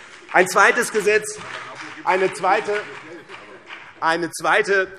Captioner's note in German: Beifall BÜNDNIS 90/DIE GRÜNEN und vereinzelt CDU